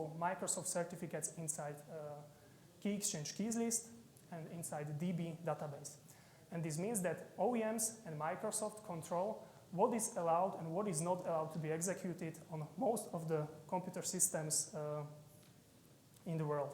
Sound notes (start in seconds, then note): none